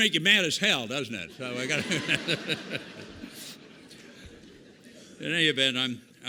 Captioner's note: laughter